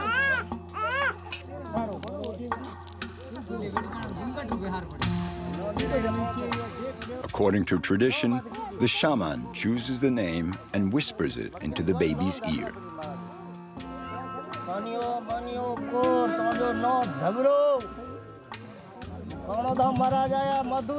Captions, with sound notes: According to tradition, the shaman chooses the name and whispers it into the baby's ear. [NON-ENGLISH SPEECH]